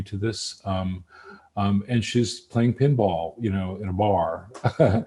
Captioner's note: laughs